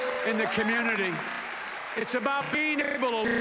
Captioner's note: applause